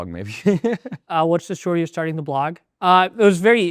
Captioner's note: laughs